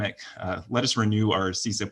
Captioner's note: speaks Spanish